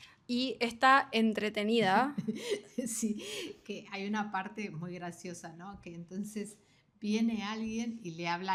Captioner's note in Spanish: risas